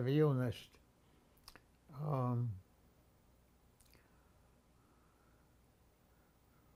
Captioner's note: pause 7 seconds